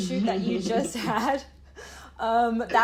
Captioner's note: laughter